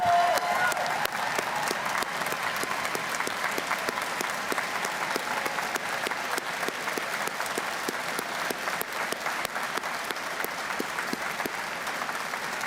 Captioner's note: cheers and Applause